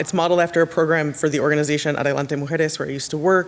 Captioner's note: speaks Spanish